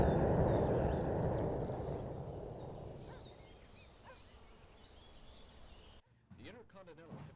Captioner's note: dramatic Music; birds Chirping